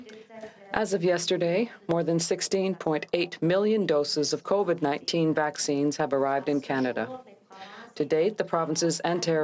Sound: speaking french

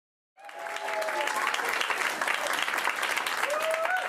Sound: audience applauds

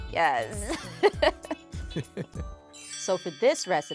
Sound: laughs

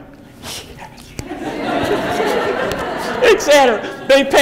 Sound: audience laughs

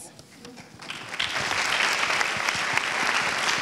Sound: applauds

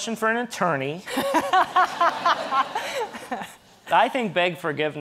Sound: audience laughing

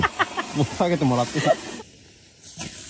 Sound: laughs

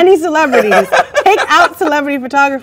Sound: man laughs

